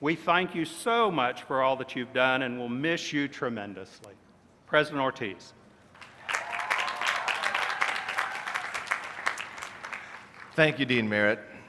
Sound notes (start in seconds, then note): 7.7 applause